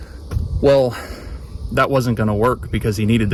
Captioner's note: sighs